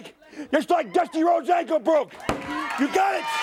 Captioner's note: crowd cheering